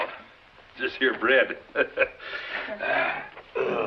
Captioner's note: chuckles